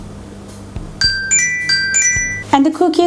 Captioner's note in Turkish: Alarm çalıyor